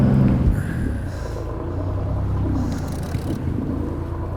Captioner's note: boat motor